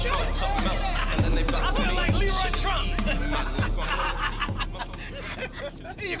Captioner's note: both laughing